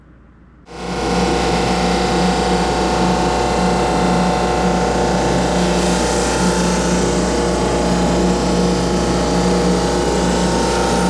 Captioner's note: motorcycle engine